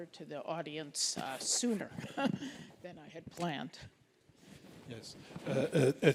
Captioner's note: laughs